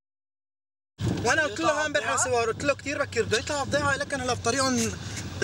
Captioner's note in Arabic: الصوت المنطوق باللغة العربية